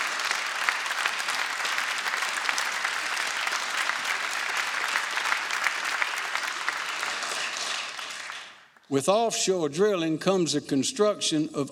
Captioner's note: applause